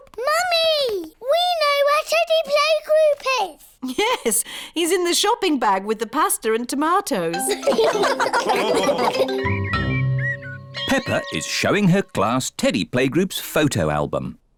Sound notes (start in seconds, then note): 7.4 all laugh